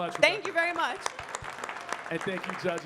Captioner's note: audience clapping